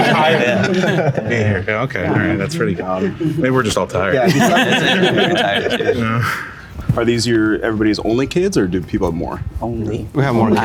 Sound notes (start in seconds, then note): 0.0 group laughing; 4.1 group laughing; 4.2 group chuckling